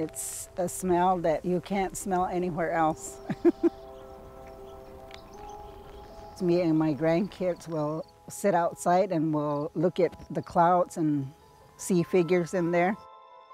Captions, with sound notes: It's a smell that you can't smell anywhere else. (laughing) Me and my grandkids will sit outside, and we'll look at the clouds and see figures in there.